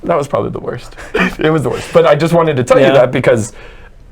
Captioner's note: laughs